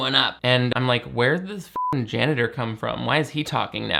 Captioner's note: beep